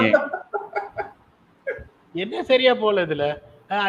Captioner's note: laughs